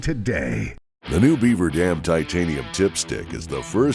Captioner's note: voiceover